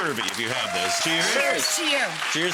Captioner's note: audience cheers